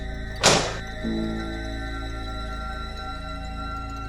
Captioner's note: dishwasher door slams